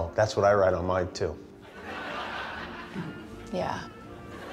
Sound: laughter

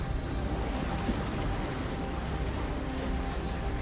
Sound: water sploshing; brooding music continues

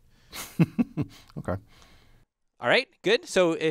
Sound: laugh

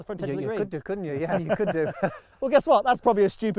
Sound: laughing

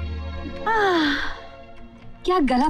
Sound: sighs

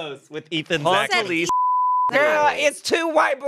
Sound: beep

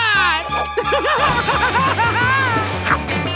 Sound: laughing

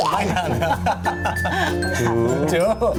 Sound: laughing

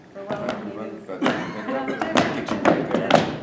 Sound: tapping

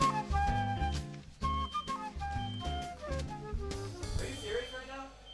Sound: smoke alarm sounds

